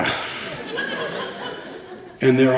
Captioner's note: laughter